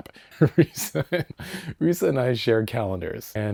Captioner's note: laugh